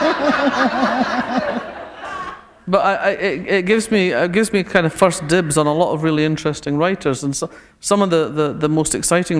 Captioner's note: laughter